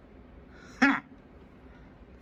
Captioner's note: scoffs